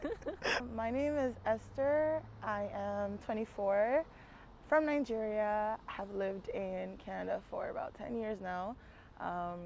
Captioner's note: giggles